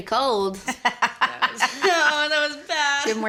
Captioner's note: laughter